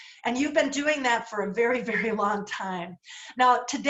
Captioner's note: laughter